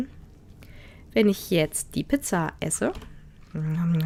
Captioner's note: nom nom nom